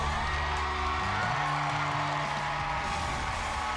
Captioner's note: crowd; crowd cheering